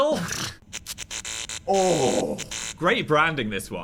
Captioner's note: snorting; electricity buzzing; groaning